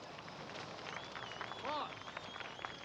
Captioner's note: audience cheering and applauding